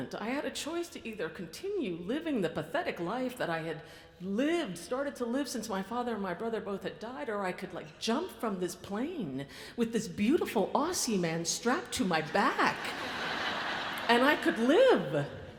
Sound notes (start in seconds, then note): 12.7 audience laughs